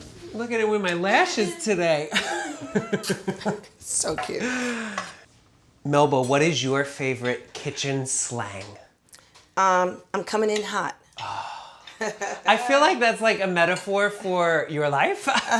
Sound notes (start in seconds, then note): 2.1 laughs; 11.0 laughs; 11.2 sighs